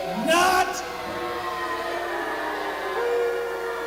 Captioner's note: crowd boos